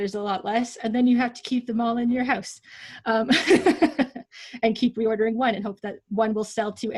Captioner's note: laughs